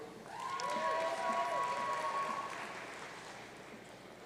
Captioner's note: audience cheering